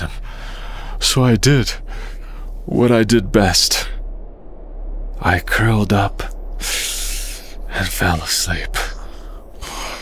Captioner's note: deep breathing of a sleeping lion